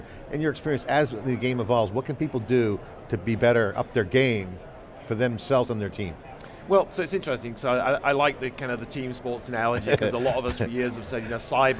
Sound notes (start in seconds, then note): 9.7 chuckles